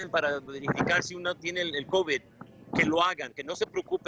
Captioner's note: speaking non-english